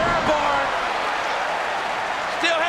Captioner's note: crowd cheering